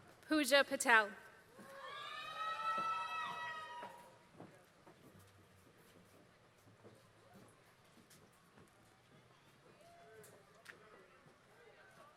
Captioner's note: applause